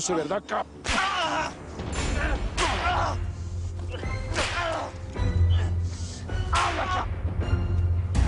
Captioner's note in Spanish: Gritos de dolor; Ruido de latigazos